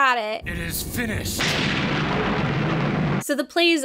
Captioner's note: thunder booming